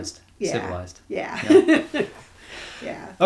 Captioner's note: laughs